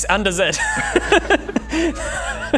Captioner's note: hysterics